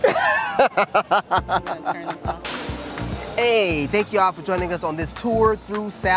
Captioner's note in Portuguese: Risada